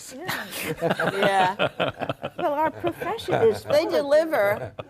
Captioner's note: laughs